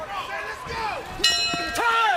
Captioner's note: bell dings